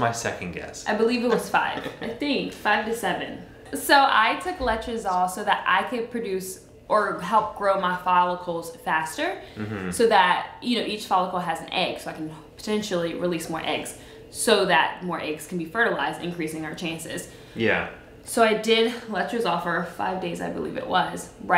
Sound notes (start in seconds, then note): 1.2 laughs